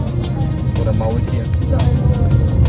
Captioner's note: speaking German